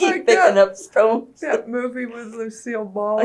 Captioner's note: laughs